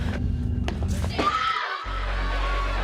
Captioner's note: screaming